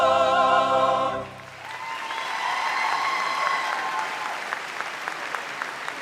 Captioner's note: audience cheers and applauds